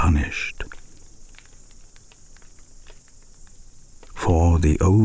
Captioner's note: fire crackling and night insects buzzing